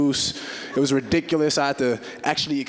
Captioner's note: audience chuckling